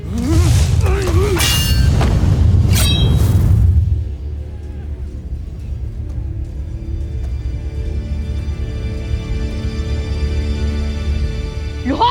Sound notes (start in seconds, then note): 0.0 sentimental music playing; 0.0 grunts & growls; 1.2 sword swoosh; 1.2 weapons swish & clang; 4.7 ominous music playing